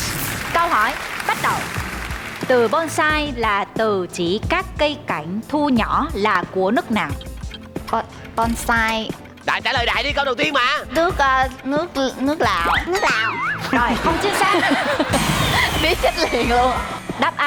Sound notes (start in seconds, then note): 12.3 laughing